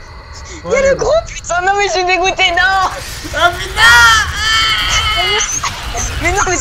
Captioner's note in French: Gémissement d'un autre monde